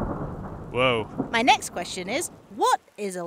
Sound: thunder

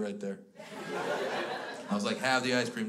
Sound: crowd laughs

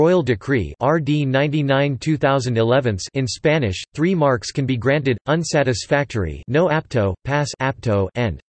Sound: in Spanish

